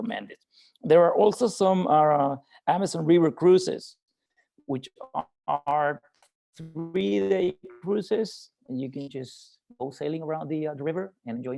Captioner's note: mic cutting out